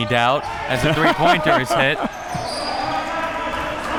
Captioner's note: laughs; audience chattering and yelling